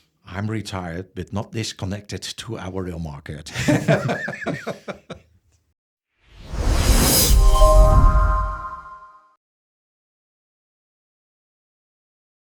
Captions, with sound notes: I'm retired but not disconnected to our rail market. [laughs] [laughs] [outro jingle]